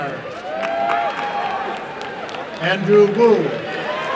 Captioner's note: applause and cheering